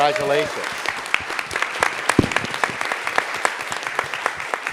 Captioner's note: audience applauding